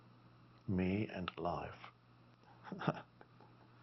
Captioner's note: laughs